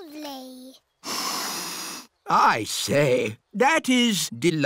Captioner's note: sniffs